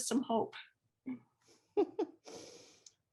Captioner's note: laughs